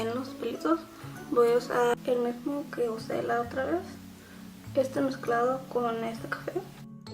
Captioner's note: in spanish